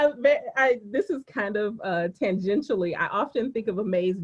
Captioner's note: laughing